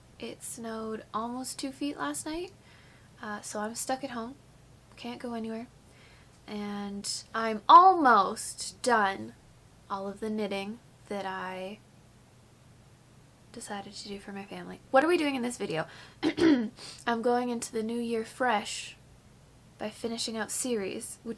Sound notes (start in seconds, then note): 16.2 clears throat